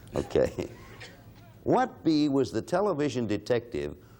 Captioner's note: laughs